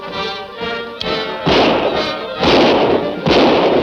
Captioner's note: gun shots